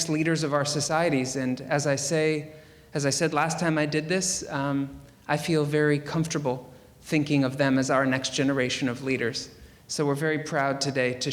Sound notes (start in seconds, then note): none